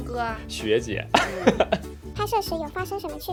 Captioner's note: hahaha